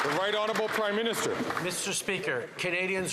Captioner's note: some Applause